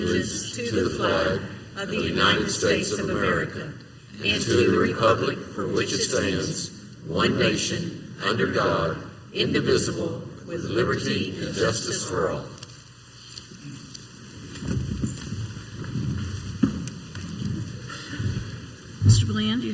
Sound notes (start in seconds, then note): 14.3 council members and audience chairs scraping